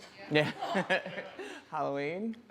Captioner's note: laughs